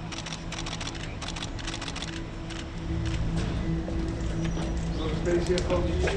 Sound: camera shutter

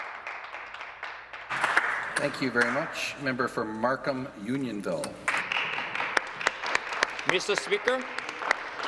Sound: some Applause

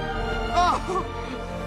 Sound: giggles

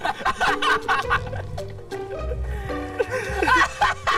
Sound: they are laughing

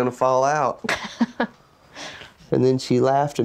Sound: laughs

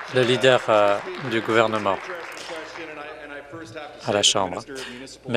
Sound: applause

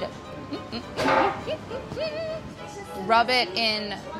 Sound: hums

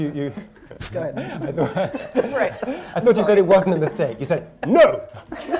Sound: laughter

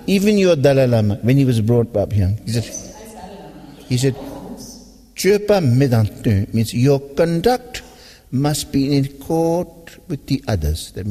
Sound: tibetan

